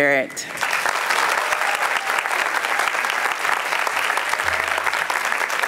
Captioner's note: applause